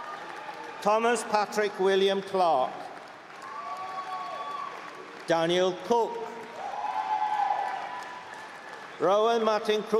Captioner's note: cheering; cheering